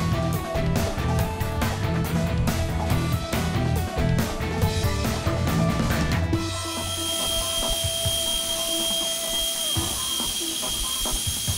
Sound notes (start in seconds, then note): 0.2 bright upbeat music; 6.5 welding machine crackling